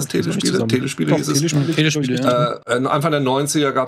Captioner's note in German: Zustimmende Laute